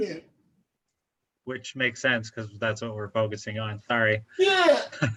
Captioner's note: laughing, yeah!